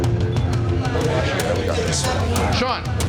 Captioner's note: dramatic instrumental music; bar chatter